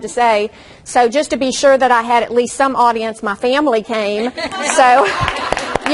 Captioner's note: audience laughs and claps